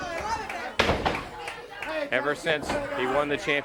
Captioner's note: crowd chatter